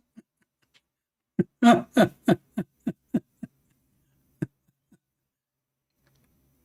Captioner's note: Ketawa